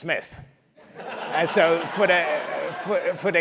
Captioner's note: laugh